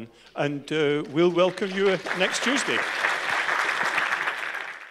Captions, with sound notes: And we'll welcome you next Tuesday. [ Applause ]